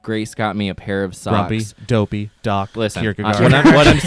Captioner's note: laughs